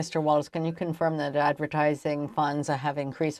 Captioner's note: speaking French